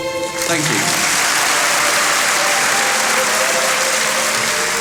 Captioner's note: audience applauds